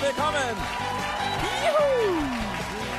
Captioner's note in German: Jubel